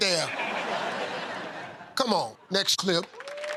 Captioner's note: laughter